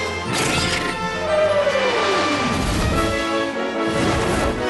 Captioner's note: whoosh!